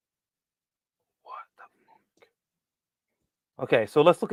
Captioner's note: whispering